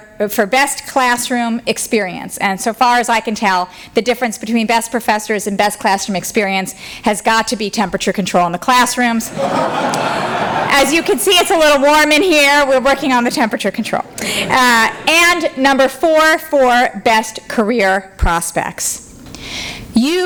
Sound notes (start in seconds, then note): 9.2 laughter